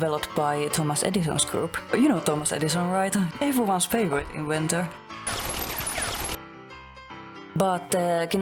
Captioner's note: guns shooting